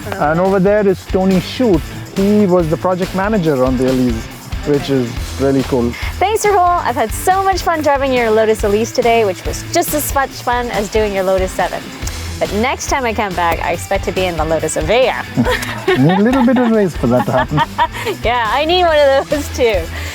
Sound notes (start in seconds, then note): 14.9 laughs